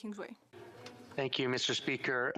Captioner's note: speaking French